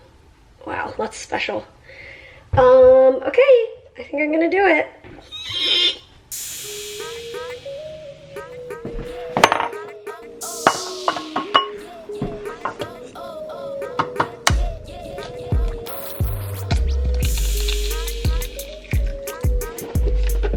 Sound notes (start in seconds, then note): 9.4 glass clinking; 13.2 eggs cracking